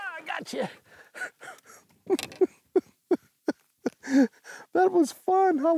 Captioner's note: giggling